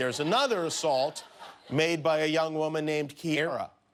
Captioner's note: laughter